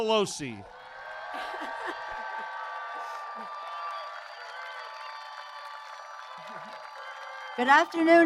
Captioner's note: applause